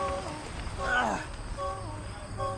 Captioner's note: grunts